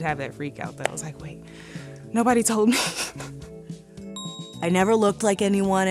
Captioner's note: laughs